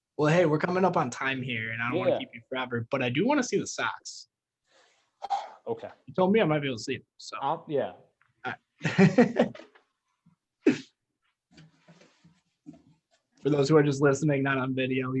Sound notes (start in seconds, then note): 5.5 sighs; 8.8 laughing